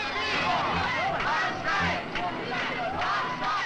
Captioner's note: protesters chanting